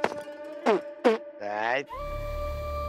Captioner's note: spits